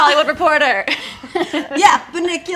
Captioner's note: laughing